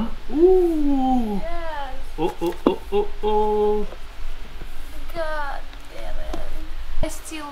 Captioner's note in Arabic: تبكي